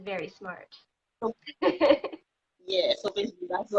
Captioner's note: laughing